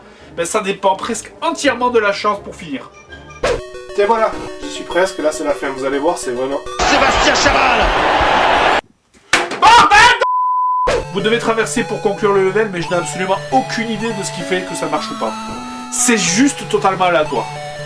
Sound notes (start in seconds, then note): 6.8 voiceover